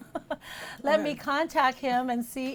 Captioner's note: laughs